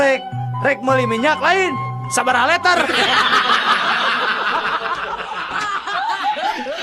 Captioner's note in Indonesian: tertawa